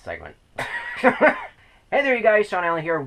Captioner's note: laughs